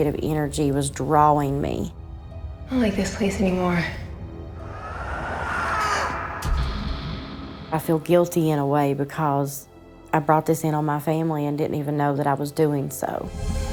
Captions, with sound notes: the negative energy was drawing me. - I don't like this place anymore. (ghostly screaming) (Candace Re-Enactor gasping) - I feel guilty, in a way, because I brought this in on my family and didn't even know that I was doing so.